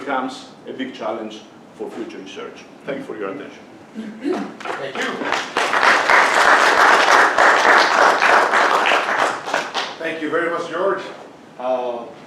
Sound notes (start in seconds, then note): 4.0 clears throat; 4.6 class claps